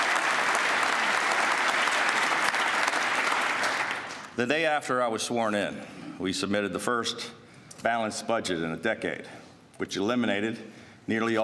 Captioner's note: applause